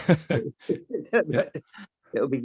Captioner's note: laugh